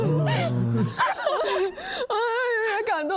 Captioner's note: laughs